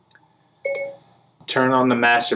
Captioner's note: phone beeps